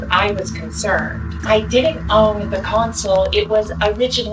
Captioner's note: none